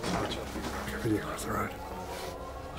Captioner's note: officer whispers